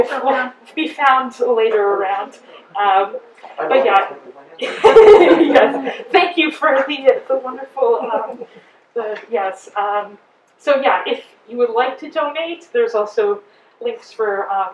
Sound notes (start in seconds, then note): 4.6 chuckles